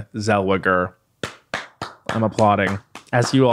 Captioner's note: clapping